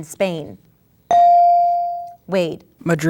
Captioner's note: ding